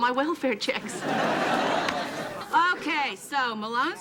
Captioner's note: audience laughing